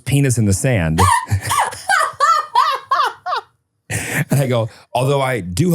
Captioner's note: person laughing